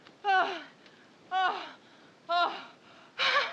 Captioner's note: panting